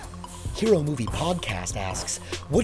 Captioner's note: voiceover